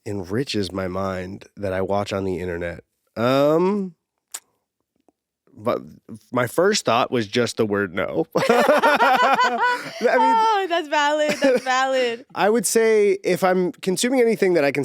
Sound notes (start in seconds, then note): 8.4 both laughing